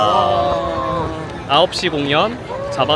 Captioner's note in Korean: 예약 성공에 환호하는